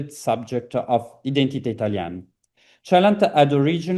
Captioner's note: italian